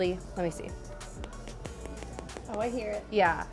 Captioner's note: finger taps